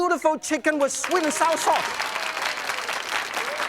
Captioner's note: crowd applauds